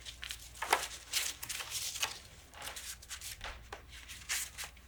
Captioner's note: papers rustling